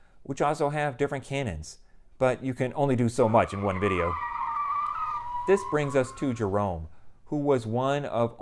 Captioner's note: car skidding